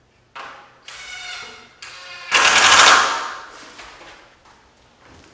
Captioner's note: tool grinding